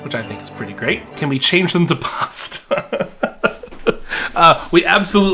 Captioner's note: laughing